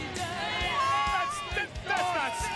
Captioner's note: crowd chatter